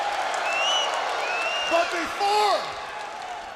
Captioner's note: crowd cheering